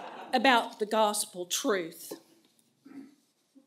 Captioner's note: laughter